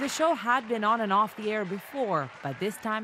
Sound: applause

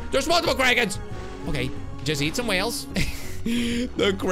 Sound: laughs

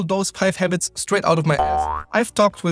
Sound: spring boings

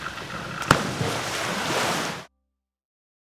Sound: water splashing

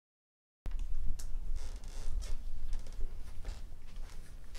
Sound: rustling and footsteps

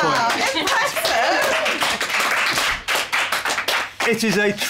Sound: applause

